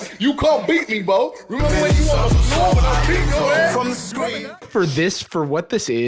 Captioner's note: KSI yelling over music